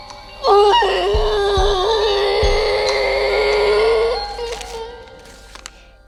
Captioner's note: muffled scream